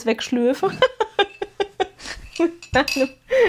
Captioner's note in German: gelächter